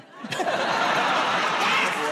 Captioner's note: laughter